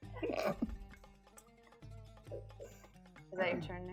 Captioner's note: laughing